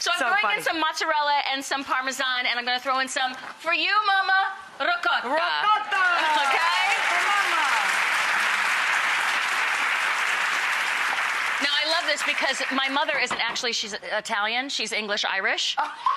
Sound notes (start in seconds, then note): 6.1 audience applause; 15.9 laughing